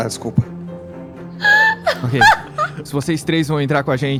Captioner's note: laughs